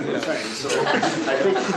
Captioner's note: laughter